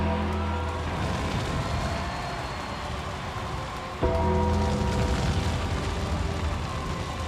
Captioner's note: fire roaring; creepy music